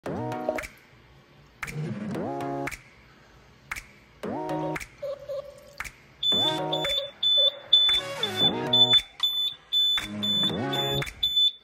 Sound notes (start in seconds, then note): 0.0 upbeat music; 6.2 fast beeping